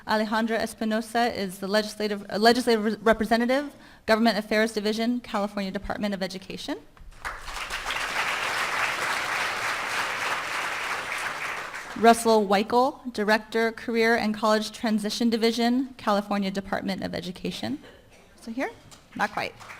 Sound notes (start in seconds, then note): 7.1 applause